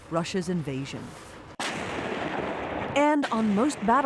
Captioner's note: gunshots firing